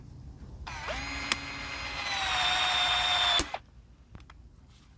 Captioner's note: electric sawing